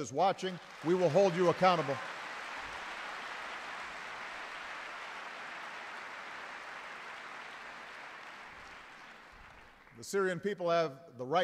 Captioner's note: applause